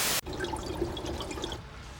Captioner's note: bubbling